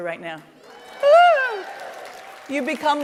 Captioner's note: cheers